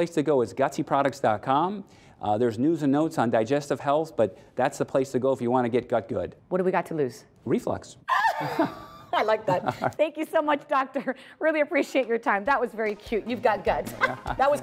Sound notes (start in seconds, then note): 8.1 laughing